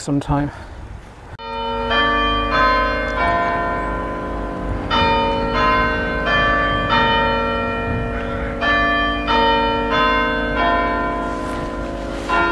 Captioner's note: church bells chime